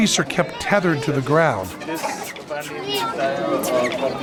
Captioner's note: chatter